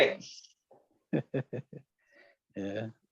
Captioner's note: chuckling